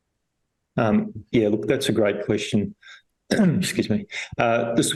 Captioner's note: coughs